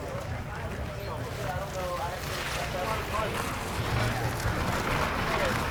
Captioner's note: wheels turning on gravel